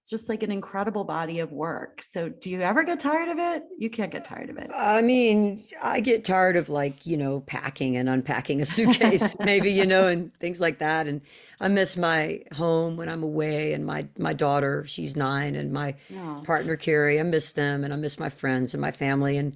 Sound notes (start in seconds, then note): 8.6 laughs